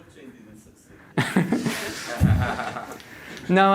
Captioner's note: laughter